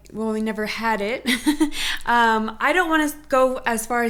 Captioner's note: laughs